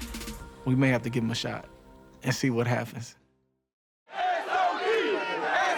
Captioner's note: crowd chanting